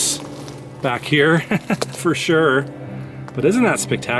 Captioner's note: laughing